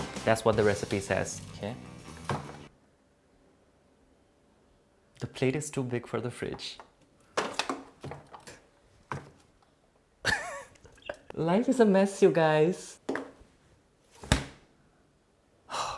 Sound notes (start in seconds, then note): 2.2 closing door; 8.4 closing door; 10.2 laughing; 14.2 closing door